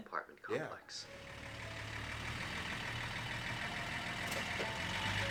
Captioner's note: engine rumbling